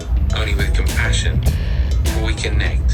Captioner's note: head Space Voice